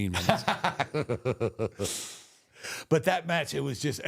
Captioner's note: both laugh